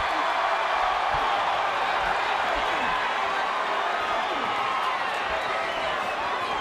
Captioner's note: applause